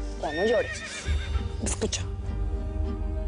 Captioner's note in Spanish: Relinchos